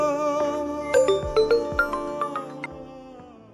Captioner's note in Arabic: رنين الهاتف